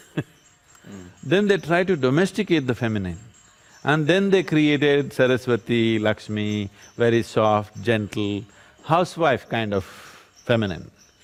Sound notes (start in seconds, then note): 0.0 laughs